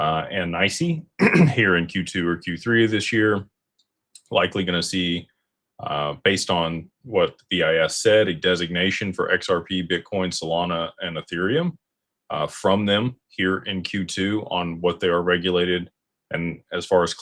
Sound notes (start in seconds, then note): 1.2 clears throat